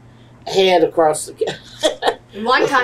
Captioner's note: laughs